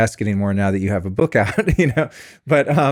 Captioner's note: laughs